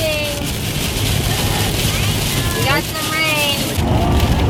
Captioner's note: rain splashing